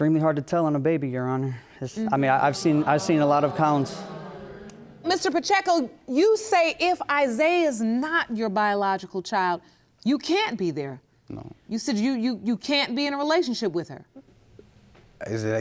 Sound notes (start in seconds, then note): 2.0 stammers; 2.5 audience groaning